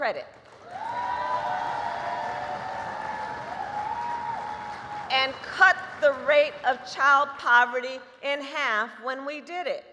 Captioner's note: applause